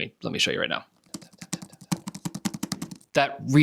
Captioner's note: tapping on laptop